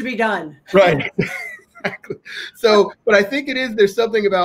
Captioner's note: laughs